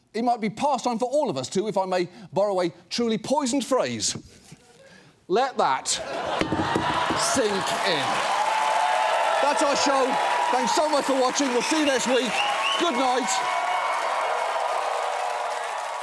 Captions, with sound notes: it might be past time for all of us to, if I may borrow a truly poisoned phrase, -let that sink in. -(AUDIENCE CHEERS, APPLAUDS) That's our show. Thanks so much for watching. We'll see you next week. Goodnight. (CHEERING, APPLAUSE CONTINUES)